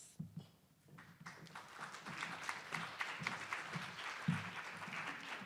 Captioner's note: attendees applauding